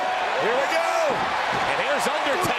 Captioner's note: crowd shouting